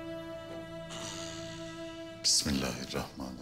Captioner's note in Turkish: Homurtu sesi